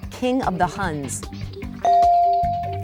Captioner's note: bell dinging